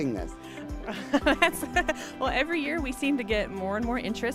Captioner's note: laughing